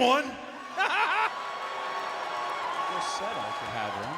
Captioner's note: Jerry laughs